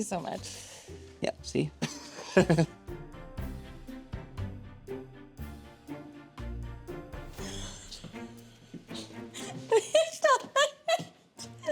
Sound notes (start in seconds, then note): 1.8 laughs; 9.4 laughs